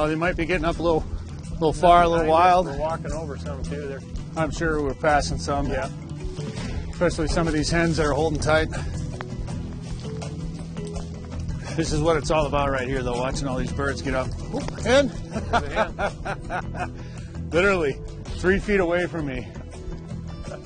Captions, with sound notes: - You know, they might be getting up a little far, a little wild. - We're walking over some too there. - I'm sure we're passing some. Especially some of these hens that are holding tight. This is what it's all about here right here though, watching all these birds get up, oh hen (laughs). Literally three feet away from me.